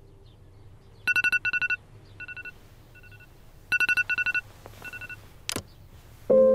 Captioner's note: Alarm Rings